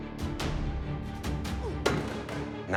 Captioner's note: thud